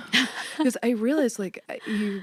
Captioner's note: laughs